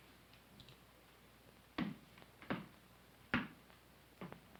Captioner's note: footsteps approaching